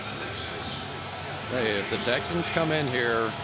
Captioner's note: announcer speaking